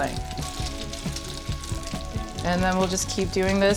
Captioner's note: oil sizzling